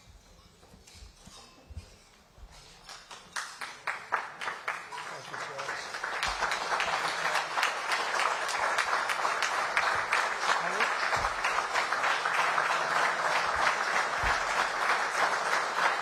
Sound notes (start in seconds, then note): 5.1 applause